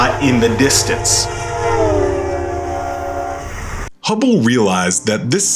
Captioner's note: train horn blowing